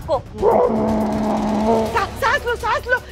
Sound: grunting

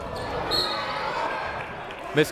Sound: whistle

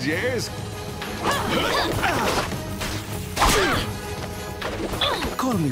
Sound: grunting

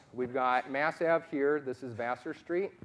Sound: none

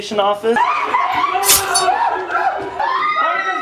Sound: screaming

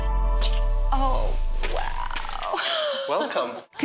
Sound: laughing

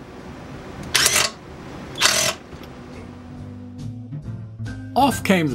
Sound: noise of an impact wrench

